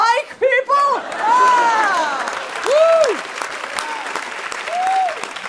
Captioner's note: people laughing